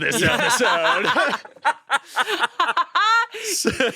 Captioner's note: they laugh